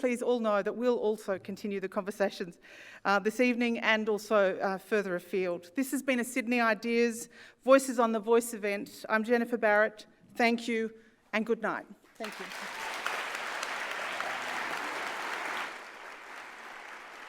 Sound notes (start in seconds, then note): 12.2 applauds